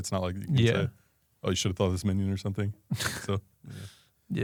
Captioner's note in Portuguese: risos